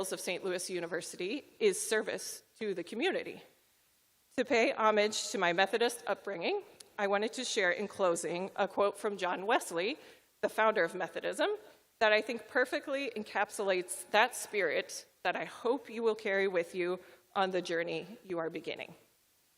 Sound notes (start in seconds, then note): none